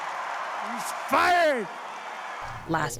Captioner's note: cheering and applause